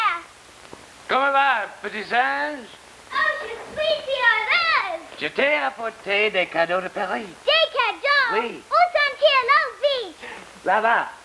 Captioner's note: speaking french